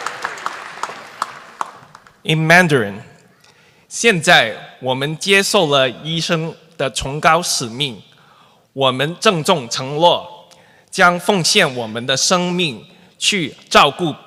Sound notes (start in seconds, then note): 0.0 applause; 3.6 speaking mandarin